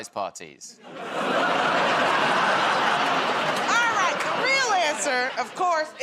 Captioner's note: laughter